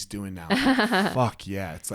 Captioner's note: laughs